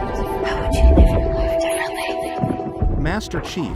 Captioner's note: female voice echoes and whispers